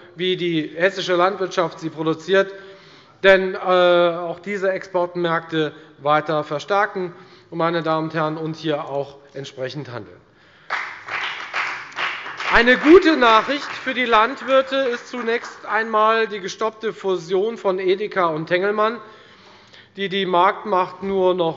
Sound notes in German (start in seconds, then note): 10.6 Beifall bei der FDP